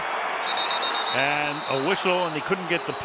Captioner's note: whistle